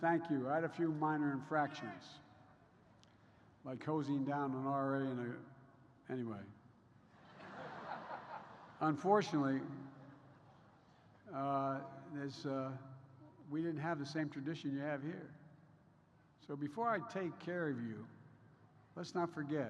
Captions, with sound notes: I had a few minor infractions, like hosing down an RA in a -- anyway. (Laughter.) Unfortunately, this -- we didn't have the same tradition you have here. So, before I take care of you, let's not forget: